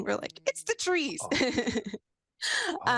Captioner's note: chuckles